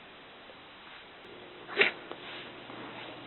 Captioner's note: sneeze